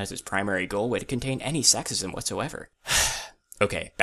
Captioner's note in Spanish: agh